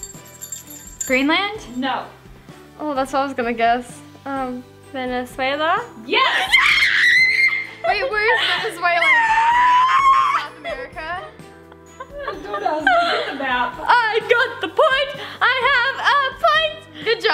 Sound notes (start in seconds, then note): 0.0 bell tinkling; 6.2 screaming